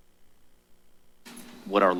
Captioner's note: pause